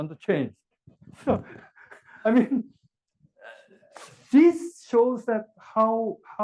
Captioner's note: laugh